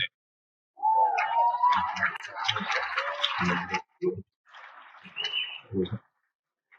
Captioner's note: cheers and Applause